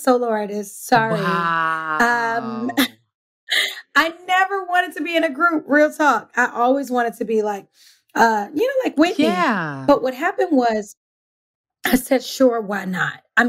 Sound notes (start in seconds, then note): 3.8 laughs